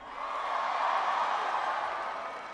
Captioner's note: applause